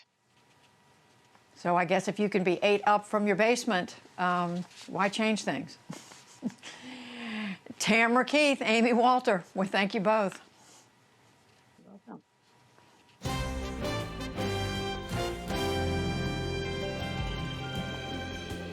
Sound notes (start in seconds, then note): 5.9 laughter